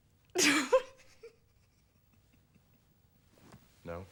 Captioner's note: laughs